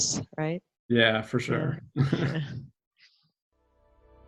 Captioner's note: both laugh